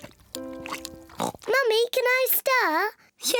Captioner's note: oinks